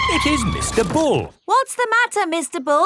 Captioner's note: tires screeching